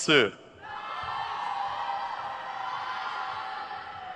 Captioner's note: crowd cheers